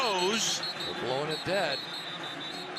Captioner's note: whistle blaring